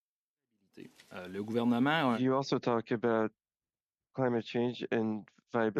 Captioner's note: speaking French